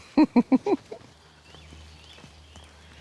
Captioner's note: laughs